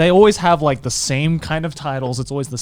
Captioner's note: none